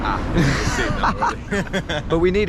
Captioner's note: laughs